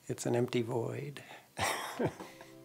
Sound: снuсklеs

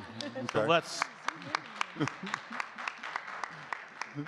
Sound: audience clapping

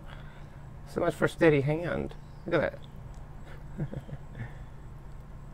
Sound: laughs at self

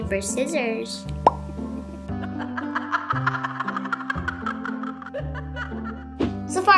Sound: laughter

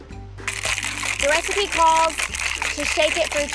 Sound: cocktail shaker clanging

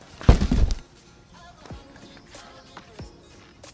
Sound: body thudding

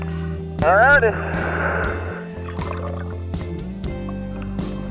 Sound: exhales air

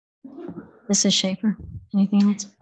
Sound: audience chuckling

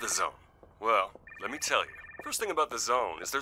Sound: phone ringing

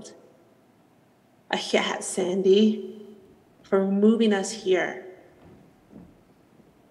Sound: speaks foreign language

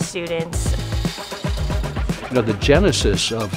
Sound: metal grinding

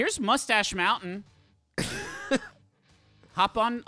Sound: laughing

